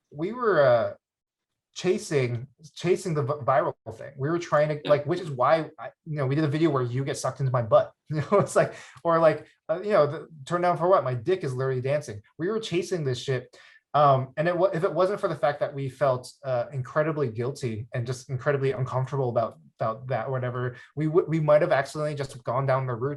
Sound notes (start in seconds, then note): 8.2 laughs